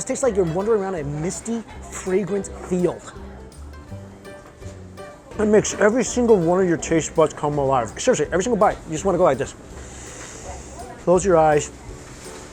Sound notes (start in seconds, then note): 9.8 inhales